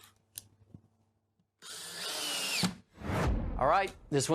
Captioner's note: drill whirring